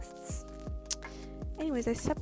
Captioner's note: tongue clicks